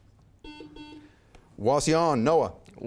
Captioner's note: buzzer beeps